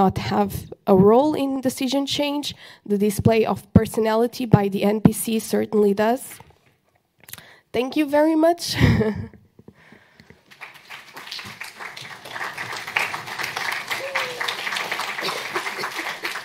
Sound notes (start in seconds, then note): 10.3 applause